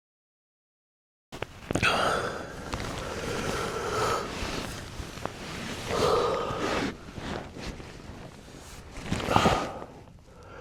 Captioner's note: heavy breathing